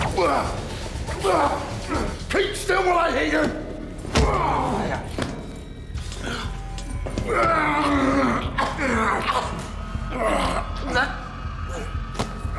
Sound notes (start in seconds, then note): 1.1 grunting; 7.4 grunts, chokes